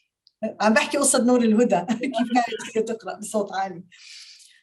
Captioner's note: speaking Arabic